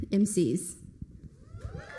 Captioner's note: applause